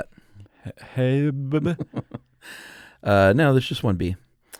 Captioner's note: laughs